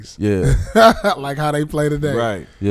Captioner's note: laughing